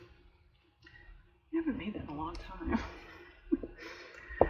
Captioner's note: laughs